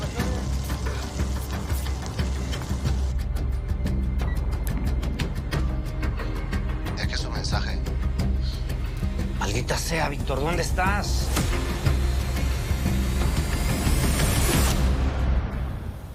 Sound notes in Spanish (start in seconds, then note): 4.2 Pitido